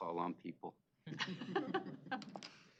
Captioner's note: laughter